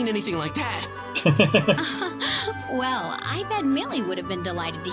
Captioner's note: laughs